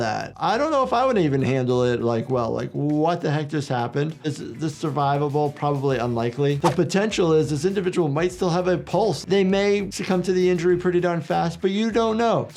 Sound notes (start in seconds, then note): 3.9 soft music; 6.6 graphics whooshing